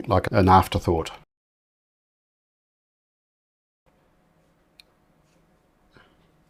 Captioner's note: silence